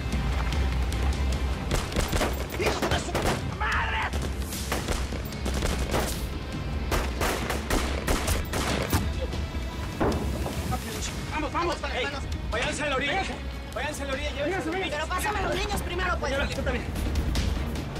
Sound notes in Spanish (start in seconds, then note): 1.6 Disparos; 5.2 Disparos